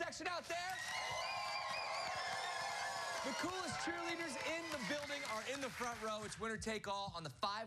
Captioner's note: cheers and applause